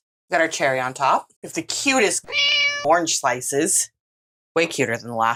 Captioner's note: meow